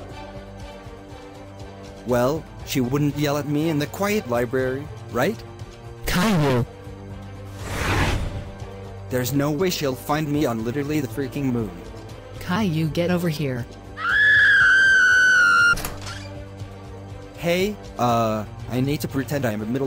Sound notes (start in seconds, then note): 7.5 swoosh; 14.0 girly screaming; 15.7 door opening